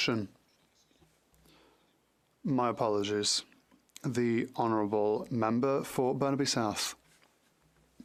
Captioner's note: speaking French